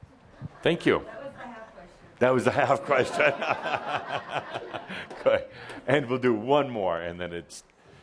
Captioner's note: Adamus chuckles